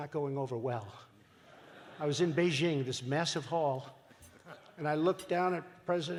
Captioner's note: laughter